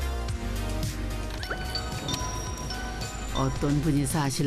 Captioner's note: ding-dong~